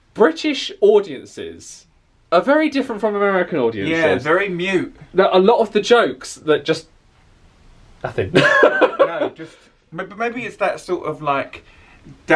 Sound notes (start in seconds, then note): 8.3 laughs